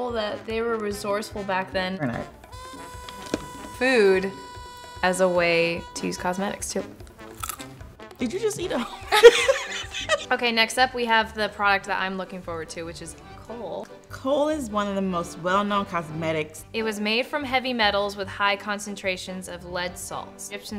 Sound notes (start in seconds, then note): 3.2 crunches; 7.3 crunches; 8.6 laughs